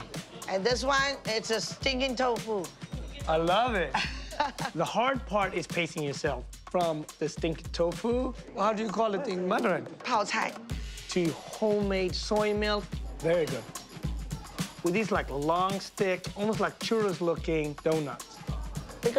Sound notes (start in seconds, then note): 3.9 laughs; 10.1 speaking Mandarin